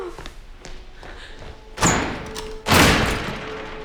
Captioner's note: thudding